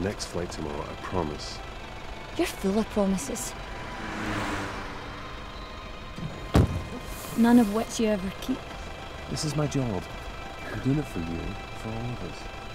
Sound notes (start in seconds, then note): 8.2 car rushes past; 10.9 melancholic music